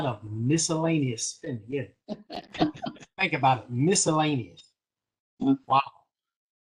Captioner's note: laughter